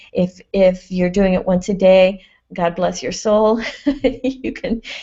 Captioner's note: laughs